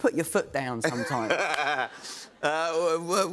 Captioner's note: laughter